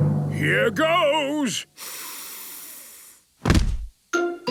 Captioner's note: dramatic drumming music; sniffs